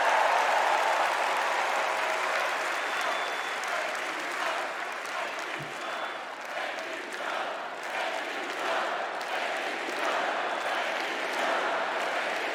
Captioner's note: cheers and applause